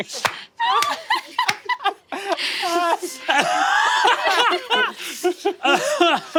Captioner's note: cast laughing